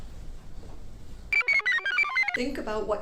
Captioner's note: computer chirps